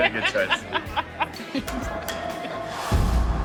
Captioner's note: laughter